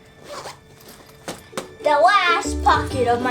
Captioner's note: zipper squeaks shut